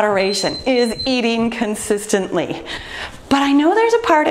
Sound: timer beeps

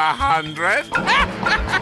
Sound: laughs

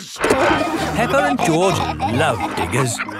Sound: peppa and george laughing

